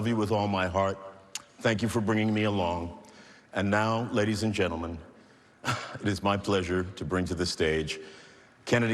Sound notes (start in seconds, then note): 5.6 exhales